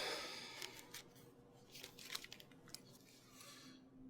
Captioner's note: Alan sighs